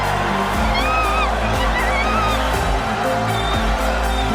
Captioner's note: all cheering